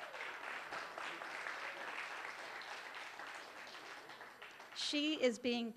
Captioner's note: applause